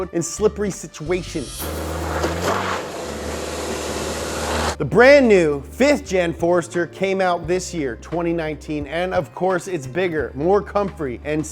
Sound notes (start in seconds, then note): 1.4 engine revving